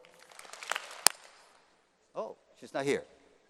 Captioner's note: applause